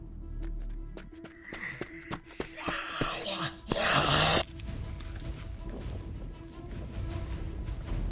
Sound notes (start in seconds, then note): 2.6 grunt, growling